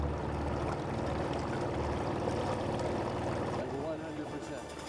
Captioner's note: boat engine growling